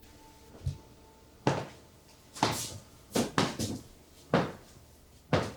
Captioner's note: Fredriech stomping